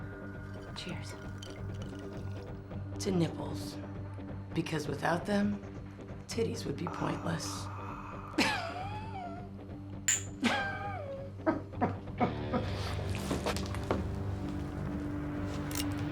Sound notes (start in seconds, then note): 7.8 laughs; 9.4 speaking Slavic language; 10.4 laughs